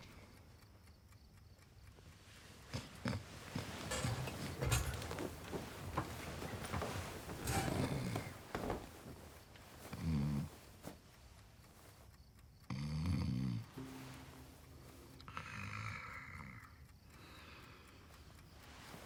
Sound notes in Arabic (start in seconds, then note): 7.4 يستمر الشخير